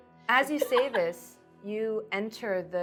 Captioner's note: laughing